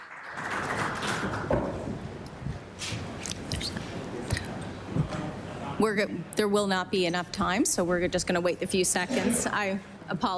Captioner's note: applause